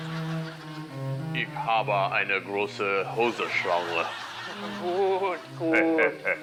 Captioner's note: both speak in german; cackling